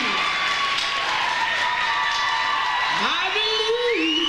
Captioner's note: audience cheers